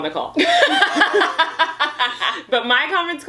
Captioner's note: laughing